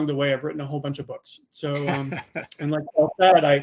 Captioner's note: laughing